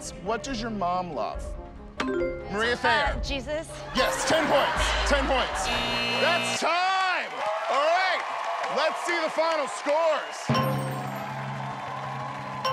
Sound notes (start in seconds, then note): 5.5 buzzer; 10.5 bell dings